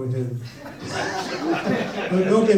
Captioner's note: audience laughs